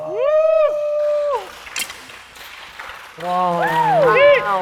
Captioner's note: the judges give him a big applause